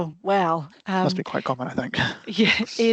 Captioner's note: chuckles